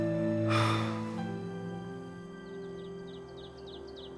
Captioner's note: Mark sighs; birds chirping